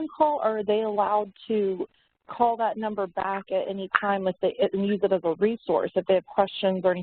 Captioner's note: audio warps